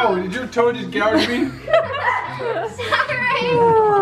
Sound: laughs

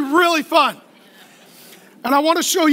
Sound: laughing

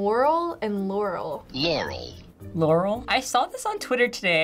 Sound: voice-over

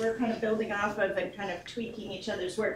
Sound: none

